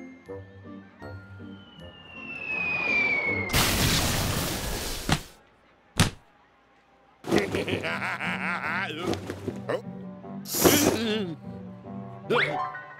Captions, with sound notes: (air whistling) (splat) (splat) HEE HEE HEE HA HA HA! HUH? NNH!